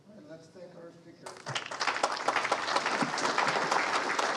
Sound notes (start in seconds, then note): 1.2 audience applauds